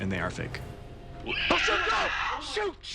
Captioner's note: screeches